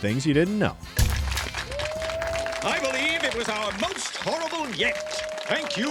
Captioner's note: applause